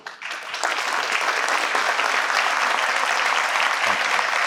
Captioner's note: participants clap